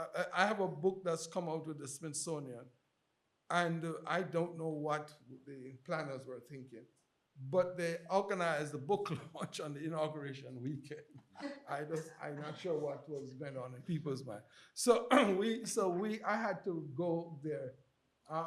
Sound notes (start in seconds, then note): 11.7 chuckles